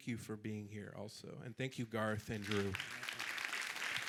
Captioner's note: audience clapping